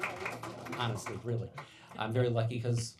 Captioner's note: applauding